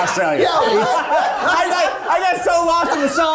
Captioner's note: cast laughing